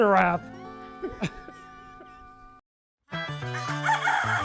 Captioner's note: people laugh; upbeat music